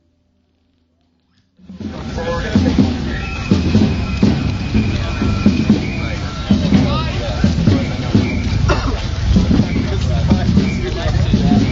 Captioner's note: crowd cheering. police whistles